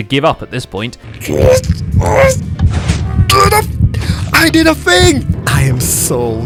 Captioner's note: noises of desperation